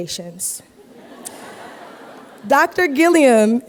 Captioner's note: laughter